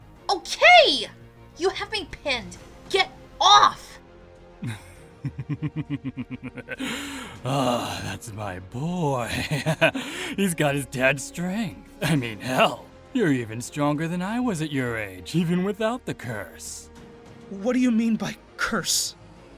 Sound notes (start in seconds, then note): 4.6 pleased laughter